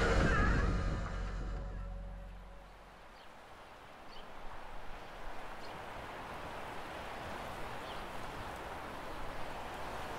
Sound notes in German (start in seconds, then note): 0.0 Musik verblasst; 4.2 Vögel zwitschern, Wellen rollen